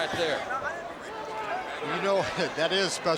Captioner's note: crowd chatter